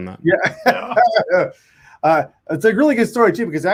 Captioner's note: laughs